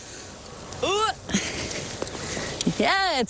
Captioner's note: grunts